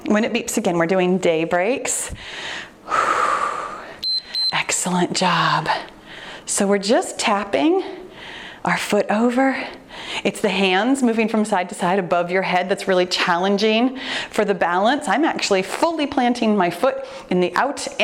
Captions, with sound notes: when it beeps again, we're doing day breaks. (exhales deeply) (timer beeps) Excellent job. So we're just tapping our foot over. It's the hands moving from side to side above your head that's really challenging for the balance. I'm actually fully planting my foot in the out